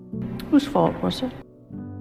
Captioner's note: voiceover